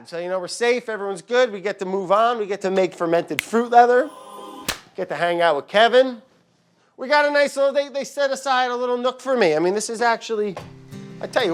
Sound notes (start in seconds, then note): 3.4 angelic music; 4.6 hands clapping; 10.8 soft music